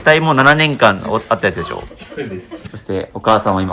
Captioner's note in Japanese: 笑い